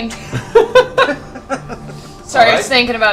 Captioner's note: laughter